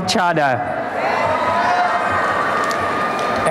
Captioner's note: applause and cheering